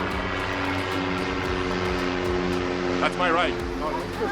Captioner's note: airplane engines roaring; both laughing